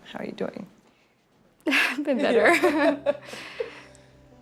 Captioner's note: laughing